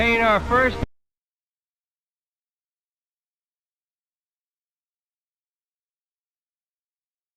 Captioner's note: audio missing